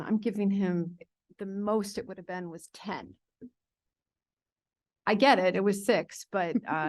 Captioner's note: none